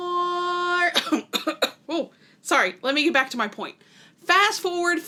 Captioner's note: coughing